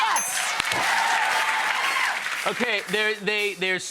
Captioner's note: bell dings; crowd cheers